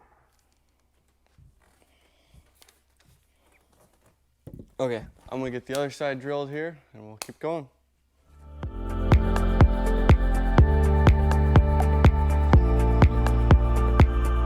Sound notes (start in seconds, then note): 8.0 palms clapping; 8.6 bright dance music